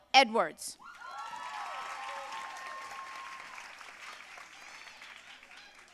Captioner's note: audience cheering and applauding